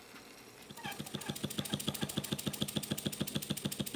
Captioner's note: rhythmic chugging